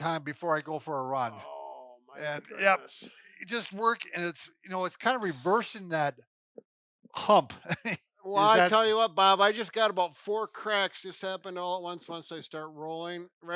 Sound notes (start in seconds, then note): 7.2 chuckles